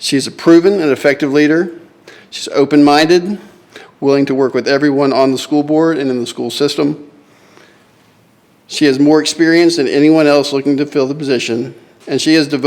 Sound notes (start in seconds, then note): none